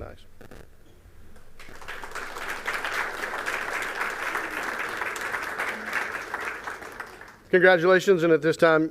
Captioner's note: applause